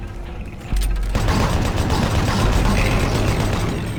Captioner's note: suspenseful music; gun firing